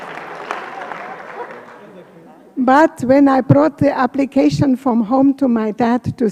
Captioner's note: applause